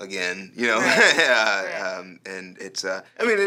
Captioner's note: laughing